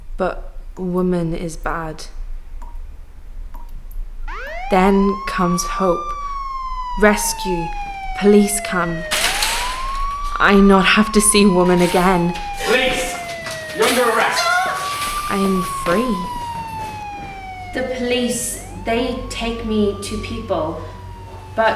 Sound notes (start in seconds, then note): 4.4 sirens wailing; 9.0 door banging